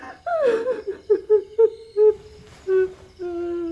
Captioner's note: girl sobbing